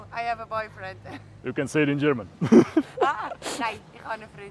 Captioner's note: laughter